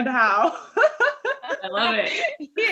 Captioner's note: laughing